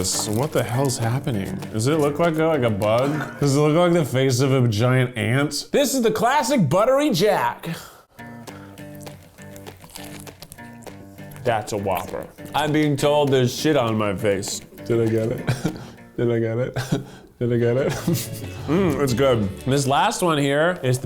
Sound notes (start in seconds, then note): 18.2 humming